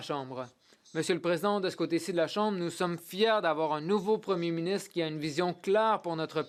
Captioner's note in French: voix de l'interprète